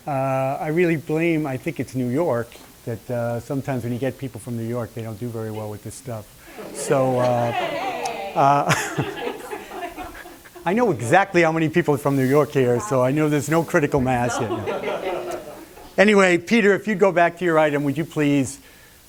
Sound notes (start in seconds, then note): 9.1 laughter; 14.0 laughter